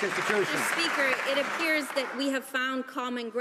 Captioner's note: some Applause